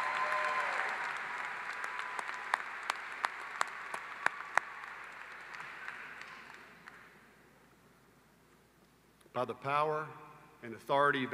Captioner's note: applause